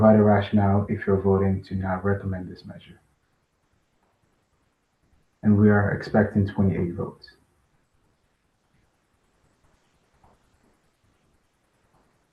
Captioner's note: pause